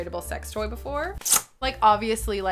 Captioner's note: package ripping